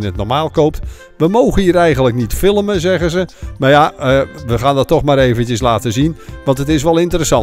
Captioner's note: voiceover